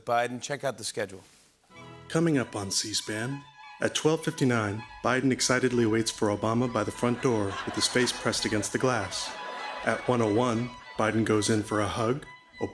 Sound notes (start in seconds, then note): 1.7 classical music plays; 6.8 laughter